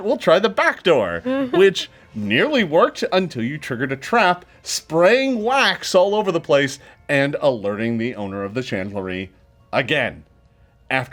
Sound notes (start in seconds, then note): 1.2 laughing